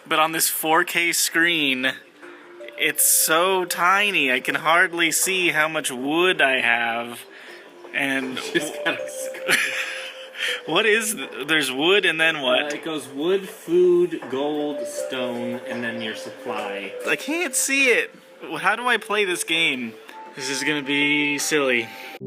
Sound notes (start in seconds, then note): 9.3 laughs; 9.4 laughs, mumbles something